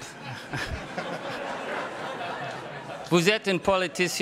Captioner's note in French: rires